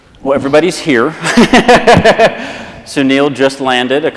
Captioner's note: laughs